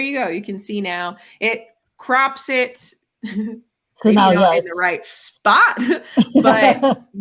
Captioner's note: chuckles